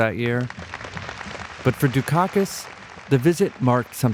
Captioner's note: audience applauding